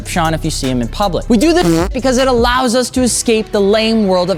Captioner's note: fart